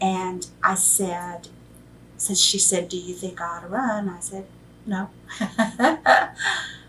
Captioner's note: laughs